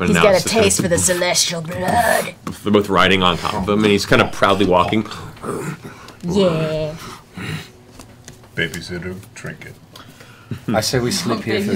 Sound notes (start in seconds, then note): 4.2 bear grunts